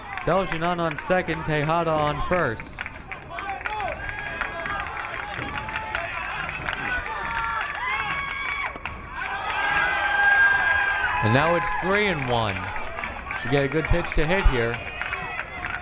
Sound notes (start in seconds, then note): 3.3 crowd cheering